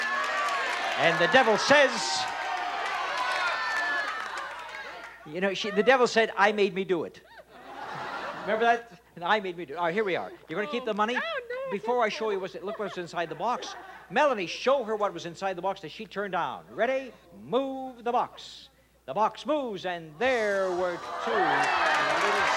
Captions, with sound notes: And the devil says...? -I'm gonna keep the money. -You know, the devil said, "I made me do it." (audience laughs) Remember that? I made me do it. All right, here we are. You're gonna keep the money? -Before I show you, look what's inside the box. Melanie, show her what was inside the box that she turned down. Ready? Move the box. The box moves, and there were two little scooters.